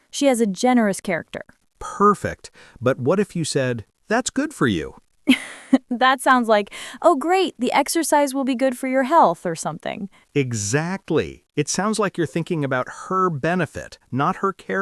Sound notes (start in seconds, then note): 5.3 laughs